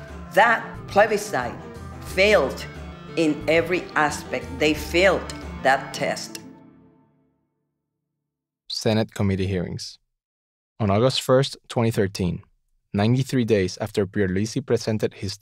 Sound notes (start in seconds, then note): 8.5 voiceover